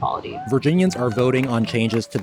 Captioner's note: crowd cheering